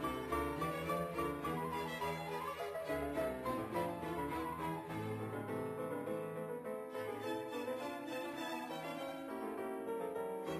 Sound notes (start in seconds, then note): none